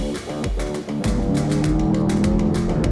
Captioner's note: engines howl